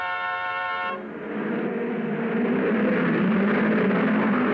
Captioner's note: cars revving